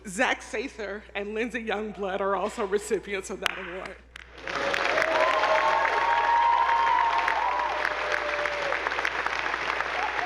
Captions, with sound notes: Zach Sather and Lindsey Youngblood are also recipients of that award. (attendees applauding) (audience whooping)